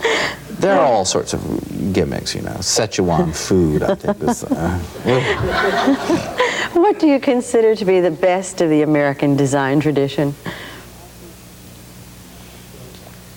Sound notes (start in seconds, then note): 3.2 laughs; 5.4 audience laughs